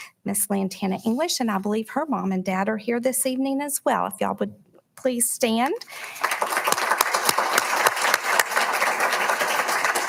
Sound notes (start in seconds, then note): 5.9 audience applauding